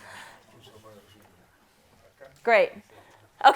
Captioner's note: audience member speaking quietly